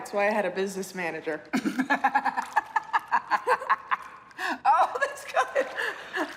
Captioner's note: laughs